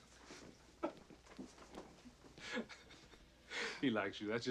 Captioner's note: laughing